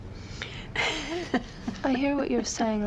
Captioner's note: laughing